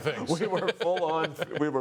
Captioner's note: laughter